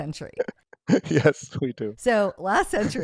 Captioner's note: laughs